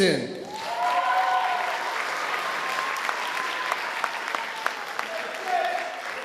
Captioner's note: audience applauding and cheering